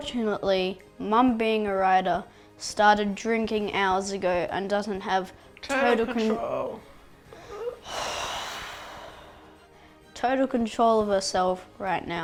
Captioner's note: sigh